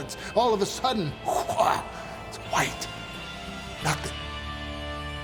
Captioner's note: narrator gasps; intense music